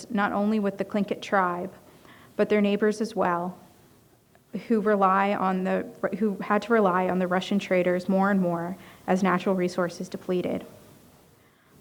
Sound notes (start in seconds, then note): none